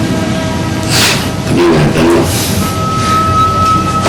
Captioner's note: Joey sniffles